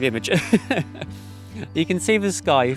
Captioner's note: laughs